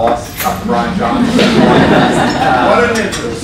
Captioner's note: laughter